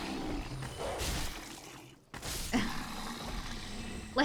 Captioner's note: gunfire